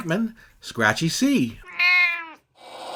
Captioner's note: meow!